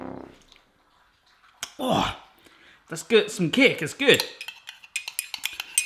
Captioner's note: groaning